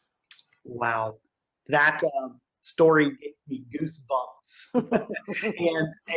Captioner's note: laughing